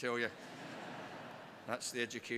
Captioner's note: crowd laughs